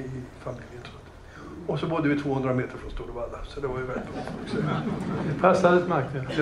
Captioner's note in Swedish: Skratt